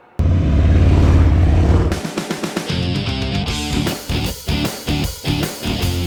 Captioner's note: engines roaring; upbeat music